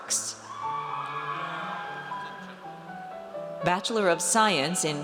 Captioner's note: audience cheers